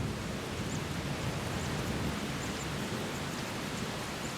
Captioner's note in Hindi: बारिश हो रही है